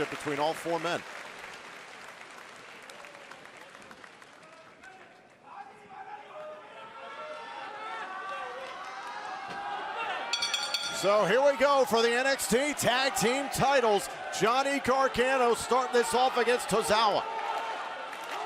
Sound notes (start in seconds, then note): 10.3 bell ringing